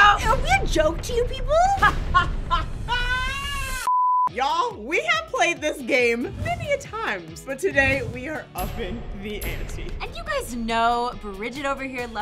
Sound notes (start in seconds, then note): 1.7 laughing; 3.9 beep